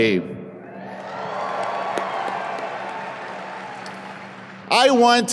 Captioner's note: audience applauds